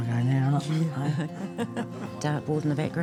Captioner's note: chuckles